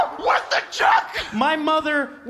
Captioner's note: screaming